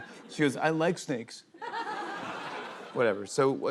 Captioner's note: laughter